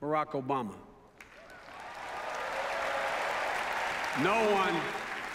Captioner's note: applause